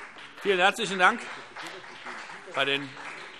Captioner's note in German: Beifall BÜNDNIS 90/DIE GRÜNEN